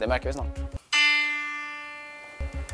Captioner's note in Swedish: Ton spelas från mobilen